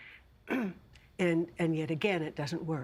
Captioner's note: clearing throat